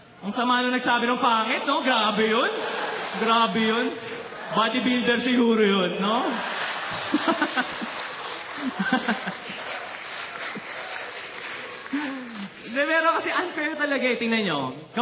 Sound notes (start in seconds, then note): 6.1 laughter, clapping; 6.2 chuckling